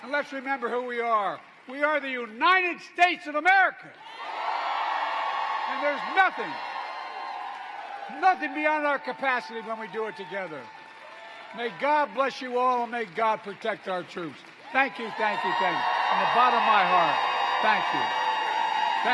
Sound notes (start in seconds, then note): 10.2 applause